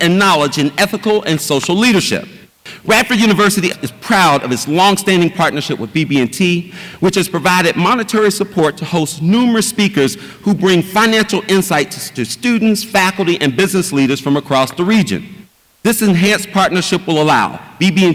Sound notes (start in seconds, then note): none